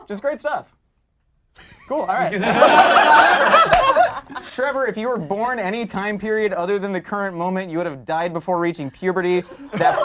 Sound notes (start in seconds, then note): 1.6 group laughs